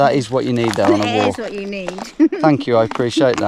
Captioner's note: chuckles